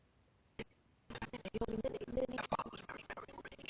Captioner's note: audio skipping